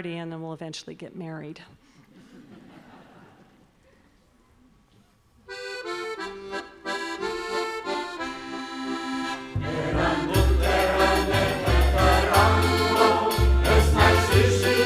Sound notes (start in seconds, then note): 2.2 audience laughs; 9.5 choir singing in Basque